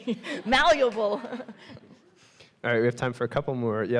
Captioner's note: all laughing